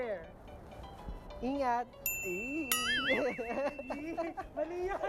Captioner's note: cheesy grin, laughs